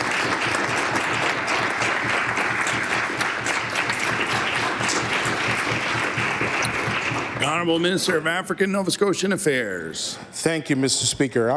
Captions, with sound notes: I WOULD LIKE THE HOUSE TO GIVE THEM A ROUND OF APPLAUSE. (Applause)